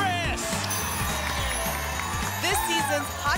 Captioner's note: applause and cheering